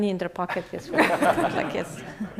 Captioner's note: laughter